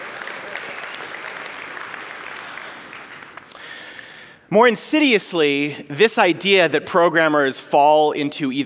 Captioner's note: applause